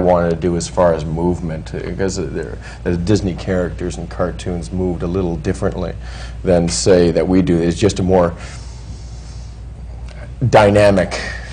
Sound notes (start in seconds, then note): none